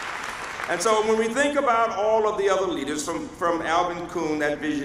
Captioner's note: applause